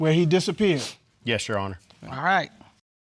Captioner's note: sniffling